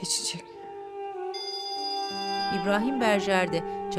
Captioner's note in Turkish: Telefon zili sesi